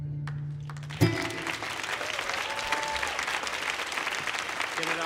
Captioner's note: audience applauding